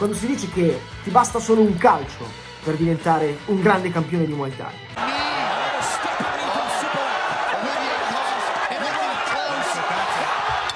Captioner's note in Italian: Applauso